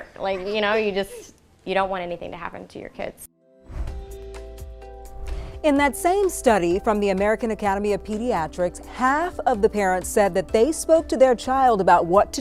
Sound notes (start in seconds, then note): 3.4 gentle music; 3.6 air whooshing